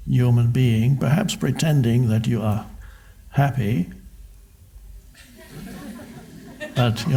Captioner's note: crowd laughs